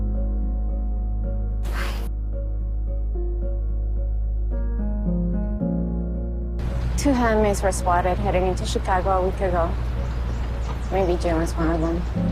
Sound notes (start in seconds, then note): 1.8 whispering; 7.3 voiceover